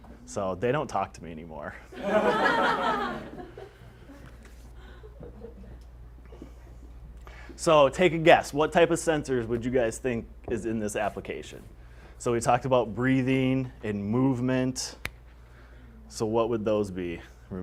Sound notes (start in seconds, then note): 1.9 laughter